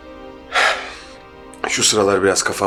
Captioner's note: sighs